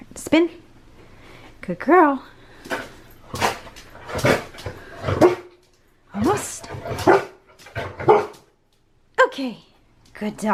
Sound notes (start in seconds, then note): 3.0 Harlow barks softly